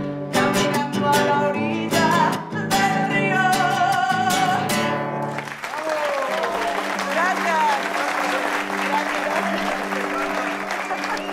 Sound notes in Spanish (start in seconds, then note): 5.2 Aplausos